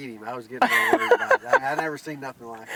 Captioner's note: laughing